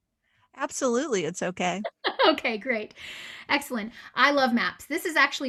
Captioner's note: laughing